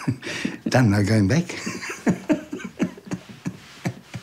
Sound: both laugh; chuckles

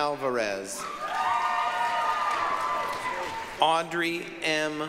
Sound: applause, cheering

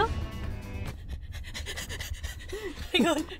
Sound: panting

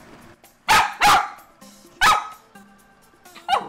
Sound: Sophie starts to bark

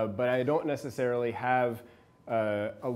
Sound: none

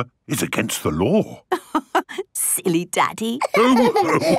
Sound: laughing

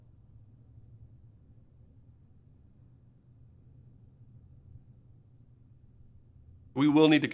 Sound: silence

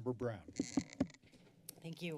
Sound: mic sounds; mic squeaks

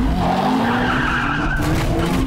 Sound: tires screeching

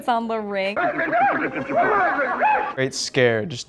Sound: shaking and screaming

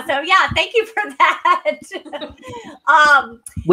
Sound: laughter

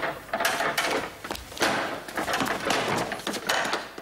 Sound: door rattling

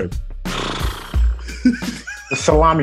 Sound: blows raspberry

